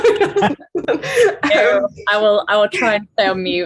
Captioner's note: chuckles; laughs